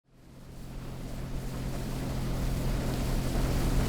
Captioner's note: water splashing